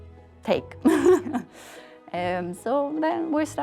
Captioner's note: chuckling